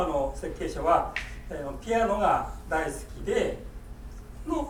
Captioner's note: speaking in foreign language; popping